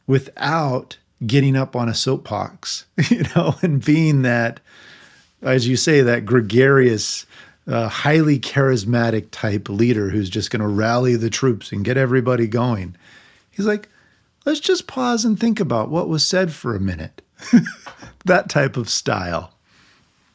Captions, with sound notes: without getting up on a soapbox, you know, and being that, as you say, that gregarious, highly charismatic type leader who's just gonna rally the troops and get everybody going. He's like, "Let's just pause and think about what was said for a minute." (laughing) That type of style.